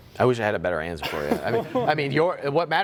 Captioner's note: laughter